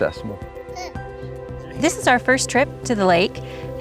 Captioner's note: baby babbles